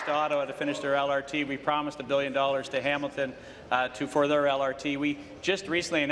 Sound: applause

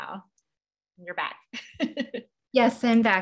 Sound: laugh

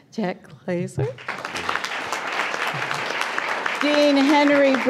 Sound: applause

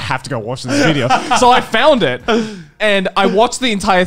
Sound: laughing

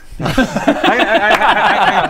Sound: faithless laughter

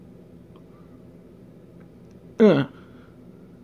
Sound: fruitless grunt of exertion

